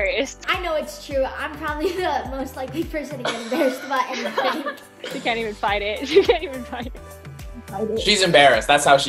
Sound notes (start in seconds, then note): 3.2 laughing